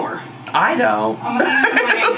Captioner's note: laughs